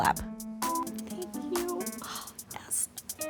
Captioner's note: quietly